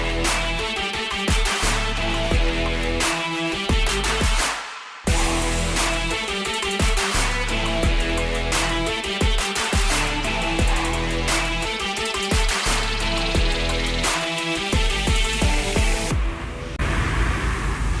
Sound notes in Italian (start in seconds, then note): 4.3 Applauso